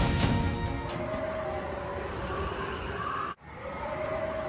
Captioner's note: blizzard Winds Howling